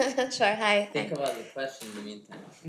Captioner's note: laughing